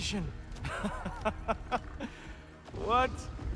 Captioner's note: laughs